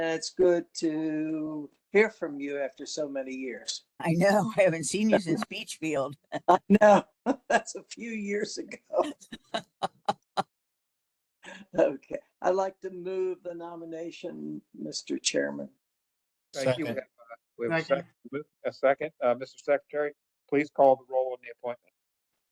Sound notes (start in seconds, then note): 6.2 laugh; 9.0 laugh